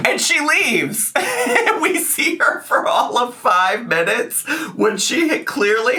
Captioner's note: laughs